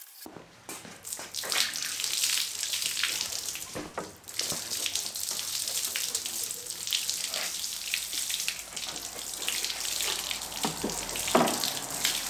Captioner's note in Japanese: 水の音